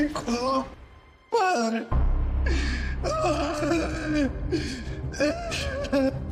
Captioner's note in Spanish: Grita